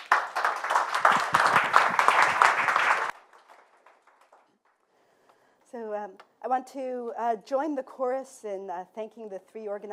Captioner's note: applause